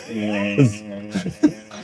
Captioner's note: laughter